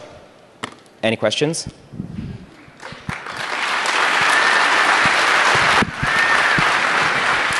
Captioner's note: applause